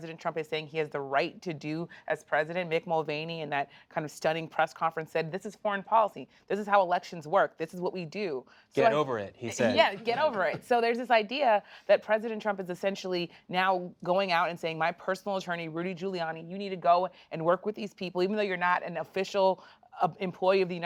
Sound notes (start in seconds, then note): 9.5 laughs